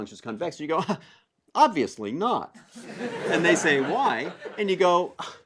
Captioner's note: laugh